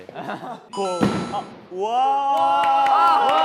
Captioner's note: rolling along with a big thud